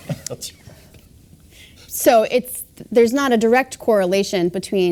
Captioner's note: laugh